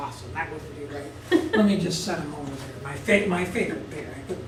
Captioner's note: laugh